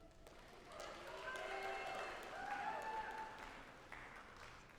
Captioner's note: audience applauding